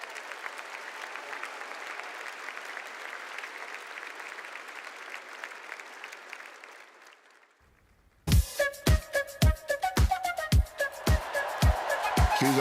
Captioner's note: cheers and applause